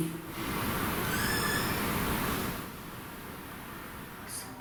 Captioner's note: squeak